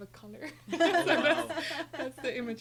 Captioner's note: laughing